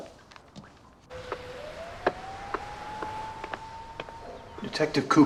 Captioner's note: police siren blaring afar